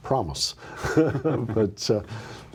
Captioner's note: laughs